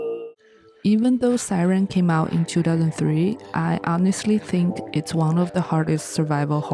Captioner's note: siren